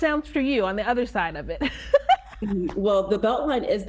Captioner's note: laughing